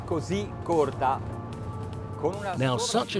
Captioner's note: speaking foreign language